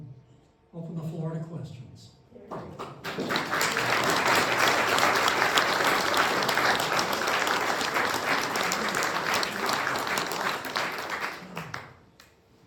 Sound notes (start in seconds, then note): 2.5 applause